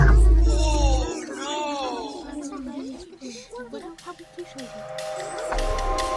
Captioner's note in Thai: เสียงวิพากษ์วิจารณ์